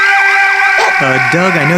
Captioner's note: screaming